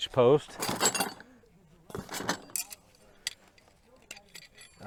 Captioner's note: metals clanking